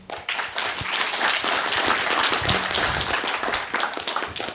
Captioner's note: applause